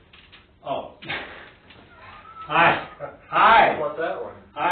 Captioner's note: laughing